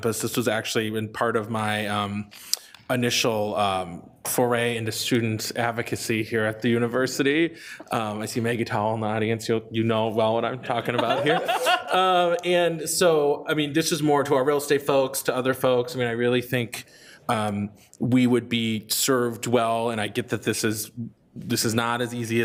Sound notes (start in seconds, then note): 10.6 all laughing